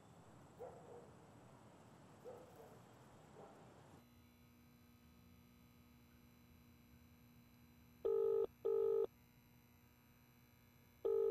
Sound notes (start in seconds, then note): 0.5 dog barks in distance; 4.1 fluorescent light hums; 8.0 phone rings